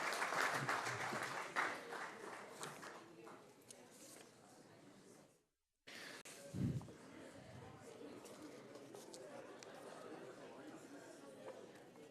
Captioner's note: applause